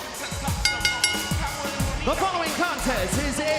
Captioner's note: bell ringing